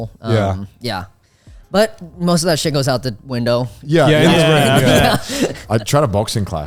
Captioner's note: laughing